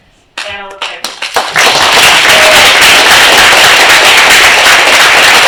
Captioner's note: applause